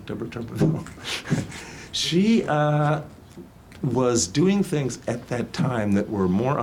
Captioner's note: laughs